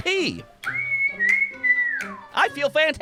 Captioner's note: whistles